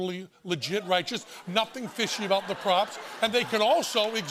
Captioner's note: laughter